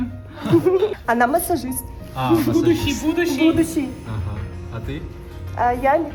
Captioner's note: laughs